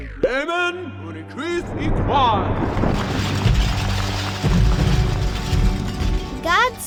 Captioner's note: God speaking gibberish, thunder crashing